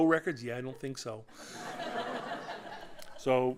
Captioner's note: laughter